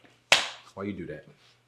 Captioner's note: questionnaire slaps